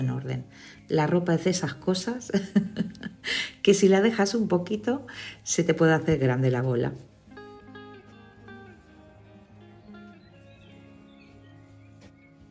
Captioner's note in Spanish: risas